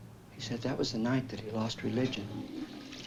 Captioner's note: toilet flushes